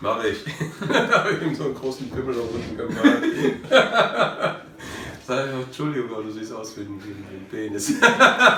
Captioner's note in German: lacht